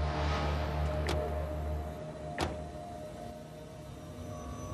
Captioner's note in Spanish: ruido al cerrar las puertas